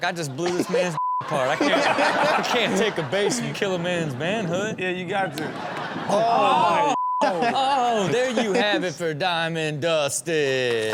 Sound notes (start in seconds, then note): 7.2 laughs